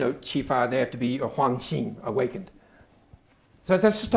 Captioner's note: speaking Chinese; speaking Chinese